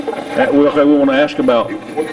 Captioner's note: Steve's Box chatters